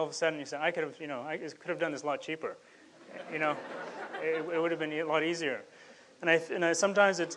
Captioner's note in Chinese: 众笑